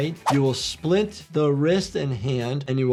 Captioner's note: audio whooshes